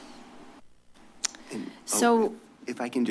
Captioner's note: clicks tongue